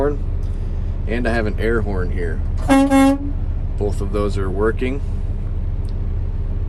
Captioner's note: horn honking